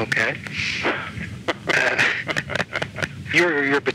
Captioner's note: laughs